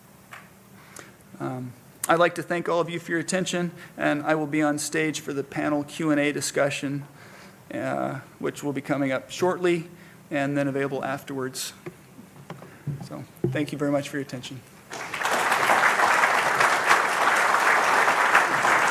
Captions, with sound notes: I like to thank all of you for your attention and I will be on stage for the panel Q and A discussion which will be coming up shortly. And then available afterwards. So thank you very much for your attention. (audience clapping)